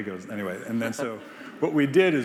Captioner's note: Biz laughing